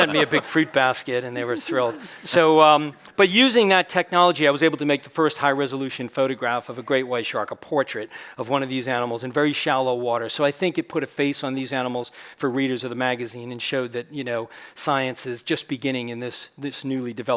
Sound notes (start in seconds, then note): 2.8 chuckles